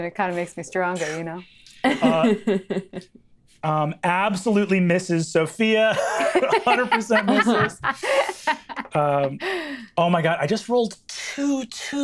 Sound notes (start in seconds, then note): 1.8 chuckles; 5.9 laughs